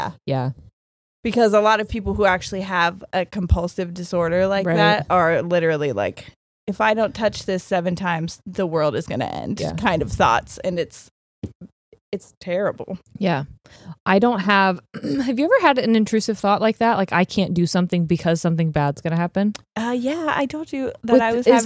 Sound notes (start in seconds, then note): 14.9 clears throat